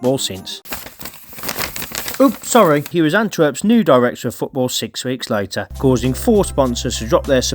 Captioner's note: paper rustling